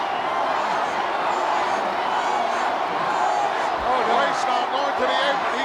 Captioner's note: crowd cheering